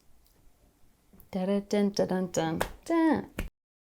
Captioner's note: claps fists; claps hands